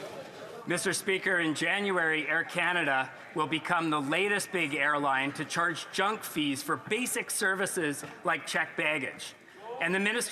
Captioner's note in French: voix de l'interprète